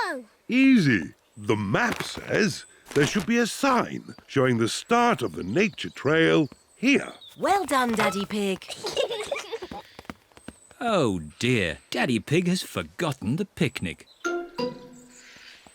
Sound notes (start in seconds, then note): 8.6 peppa and george giggle